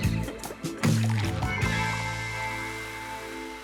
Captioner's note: drink bubbles; drink fizzes